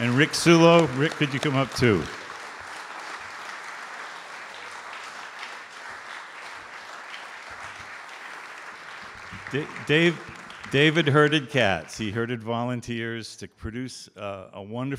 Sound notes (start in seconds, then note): 2.1 audience Applause